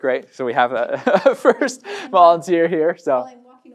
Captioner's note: laughs